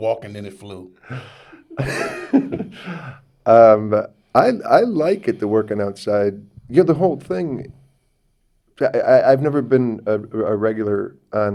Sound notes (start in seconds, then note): 2.6 Neil laughs